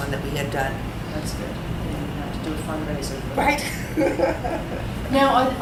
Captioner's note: all laugh